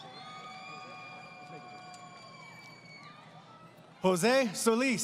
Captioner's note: crowd Cheering